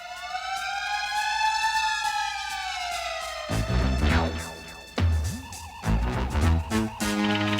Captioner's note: siren